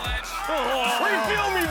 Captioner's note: Rob mimics grunting